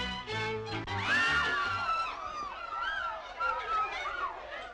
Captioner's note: crowd screaming